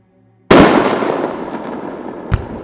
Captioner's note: fireworks exploding